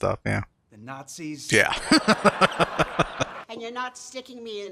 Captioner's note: laughing